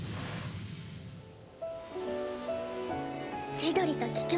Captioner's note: sounds of blowing wind